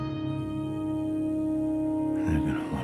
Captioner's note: insects chirping